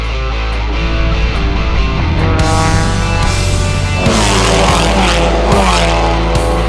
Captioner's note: car engines rumbling; mid tempo rock music